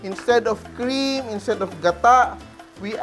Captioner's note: sizzle